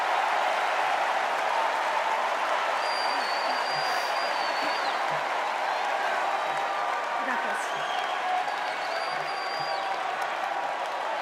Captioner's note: cheers and applause